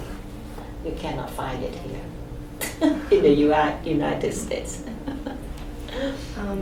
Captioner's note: laughs